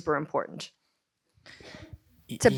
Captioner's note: clears throat